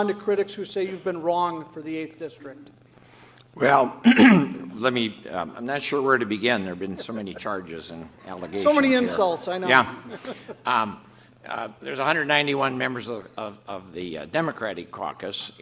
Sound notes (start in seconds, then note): 4.0 clears throat; 6.8 laughter